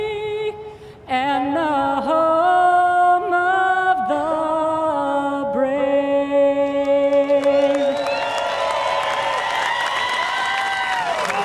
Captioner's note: cheers and applause